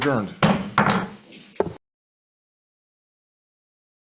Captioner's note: gavel taps